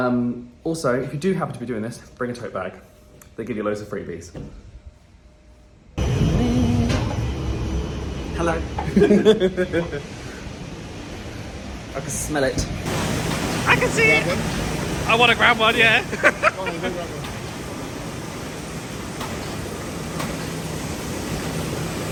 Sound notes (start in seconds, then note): 8.8 laughing; 13.7 machines whirring